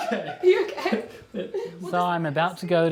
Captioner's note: Joseph's roommate laughing